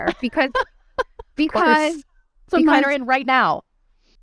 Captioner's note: laughing